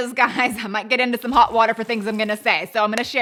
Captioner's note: water sloshes